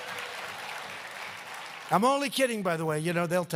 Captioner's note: applause